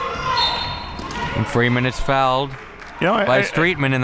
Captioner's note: whistle blows